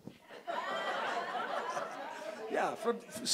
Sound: audience laughing

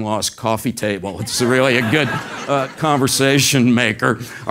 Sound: laugh

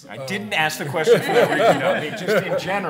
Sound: audience applauding

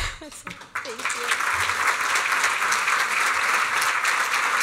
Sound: applause

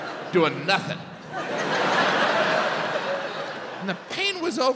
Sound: audience laughs

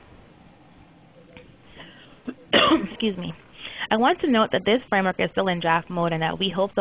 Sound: cough

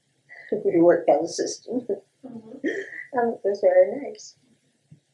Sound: laughter

